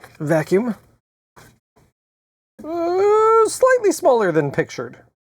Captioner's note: none